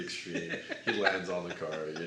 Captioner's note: laughs